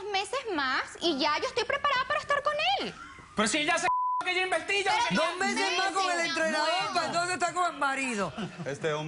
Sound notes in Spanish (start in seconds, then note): 3.8 Bip